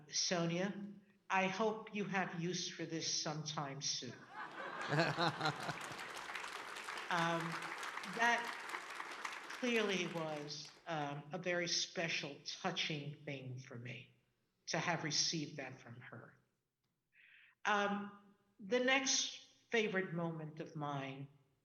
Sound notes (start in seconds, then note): 4.3 audience laughing and clapping